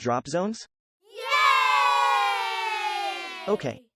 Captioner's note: kids cheer